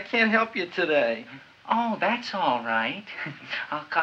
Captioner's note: chuckles